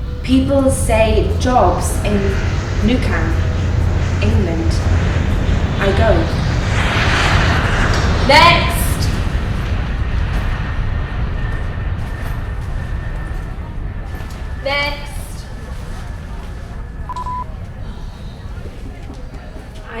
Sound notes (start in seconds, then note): 7.1 plane engine roaring; 17.0 beeping